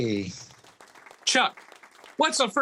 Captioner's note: audience clapping